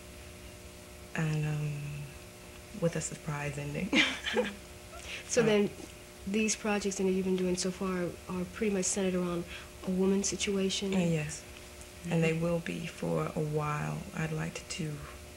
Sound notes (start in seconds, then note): 3.9 laughter